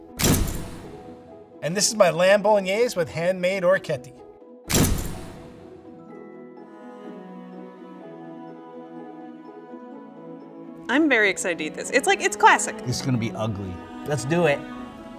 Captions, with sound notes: [picture snapping] - And this is my lamb Bolognese with handmade orecchiette. [picture snapping] [lighthearted music] - I'm very excited to eat this. It's like, it's classic. - It's gonna be ugly. Let's do it.